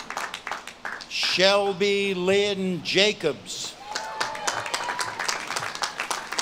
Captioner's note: audience claps and cheers